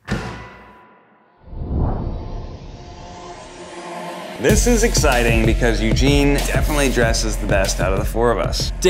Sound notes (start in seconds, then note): 1.4 dramatic whooshing